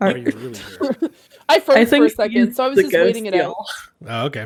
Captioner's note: chuckles